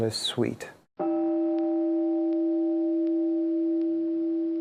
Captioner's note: meditation chime